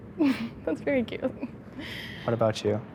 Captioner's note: laughs softly